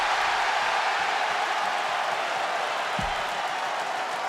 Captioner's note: crowd cheering